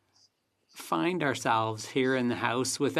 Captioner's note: speaking French